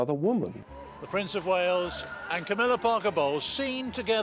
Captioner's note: voiceover